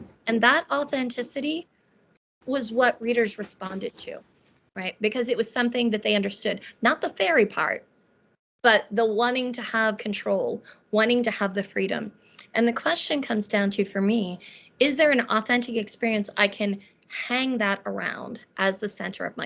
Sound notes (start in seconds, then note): none